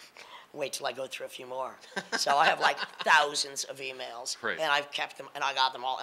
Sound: laughing

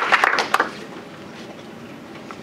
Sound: applause

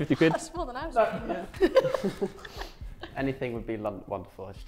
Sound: laughs

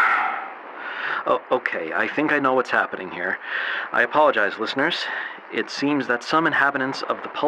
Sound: exhales

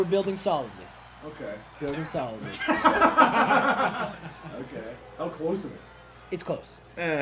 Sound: laugh

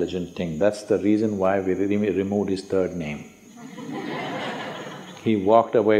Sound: laughter

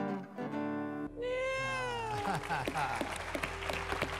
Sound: crying noises

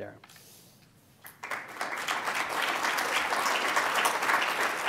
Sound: applause

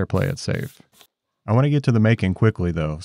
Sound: hands brushing

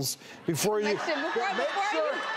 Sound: audience reacts

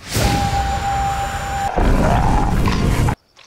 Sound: grumbling

